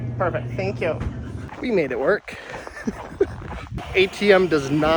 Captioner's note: chuckles